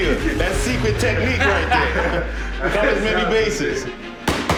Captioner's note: laughing